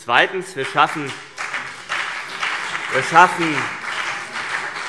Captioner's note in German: Beifall CDU und BÜNDNIS 90/DIE GRÜNEN